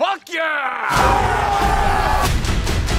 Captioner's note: cheering